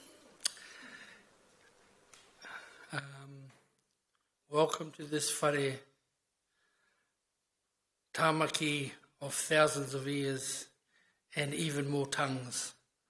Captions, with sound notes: Welcome to this (speaks in foreign language) of thousands of ears and even more tongues.